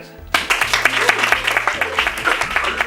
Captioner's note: applause